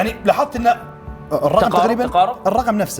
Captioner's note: sarcastically